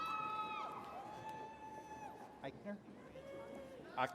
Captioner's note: attendees cheering